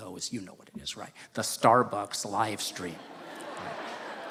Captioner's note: laughter